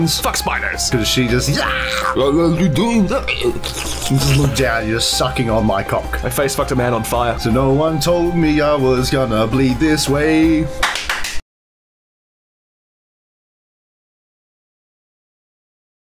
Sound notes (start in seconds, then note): 3.1 gagging noises; 10.8 clap clap clap clap